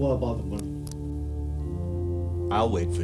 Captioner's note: hammer clicking